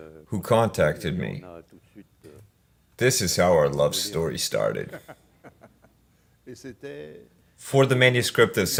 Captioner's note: laughs